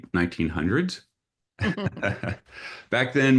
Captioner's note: laughter